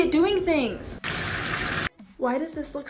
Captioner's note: water splattering